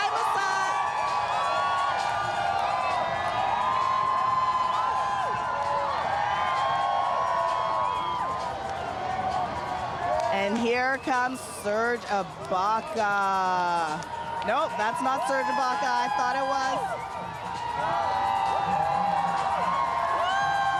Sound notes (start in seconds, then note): 5.8 cheering